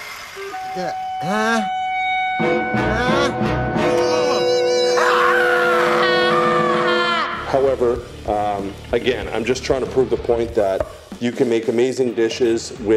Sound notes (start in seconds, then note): 0.3 suspenseful orchestral music; 4.8 yelling